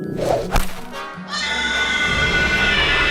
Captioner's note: cries